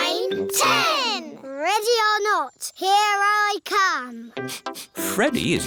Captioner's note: sniffs